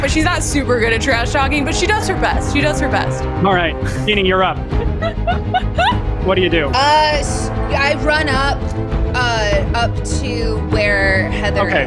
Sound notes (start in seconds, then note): 4.7 giggling